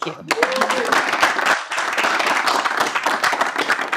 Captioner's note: audience applauding